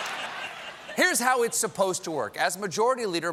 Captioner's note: laughter